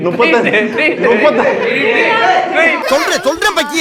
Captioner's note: indistinct chatter